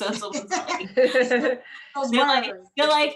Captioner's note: laughing